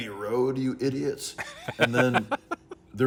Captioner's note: laughing